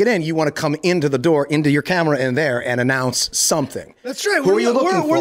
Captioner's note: none